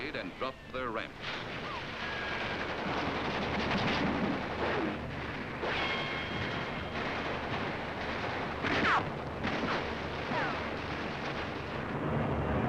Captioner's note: sounds of explosions